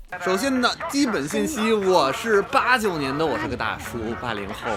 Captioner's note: speaking in Mandarin